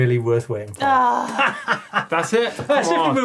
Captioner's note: sighing; laughing